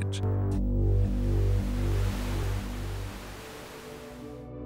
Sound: TV static noise; gentle music

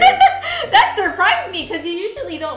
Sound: laughing

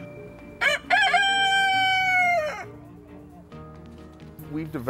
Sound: rooster Crowing

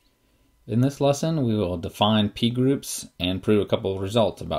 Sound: voiceover

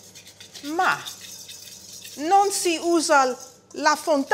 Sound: italian

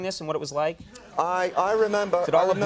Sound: audience laughs

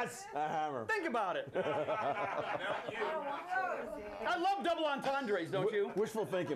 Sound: laughter

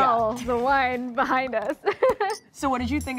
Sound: laughs

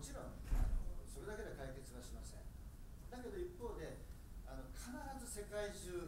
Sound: speaking in foreign language

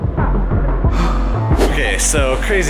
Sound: sighs

